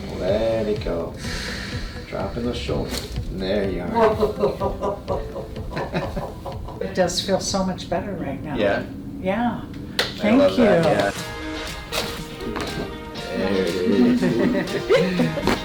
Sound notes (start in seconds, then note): 1.1 patient exhales; 1.1 patient inhales; 2.8 cracks; 3.8 laughs; 5.8 gentle music; 5.8 laughs; 10.2 gentle upbeat music; 11.3 cracking; 13.8 patient laughs; 15.4 neck cracks